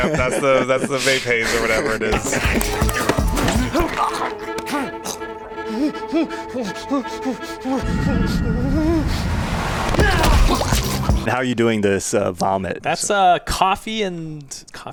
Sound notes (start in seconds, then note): 5.7 nervous grunting